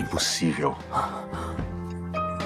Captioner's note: scoffs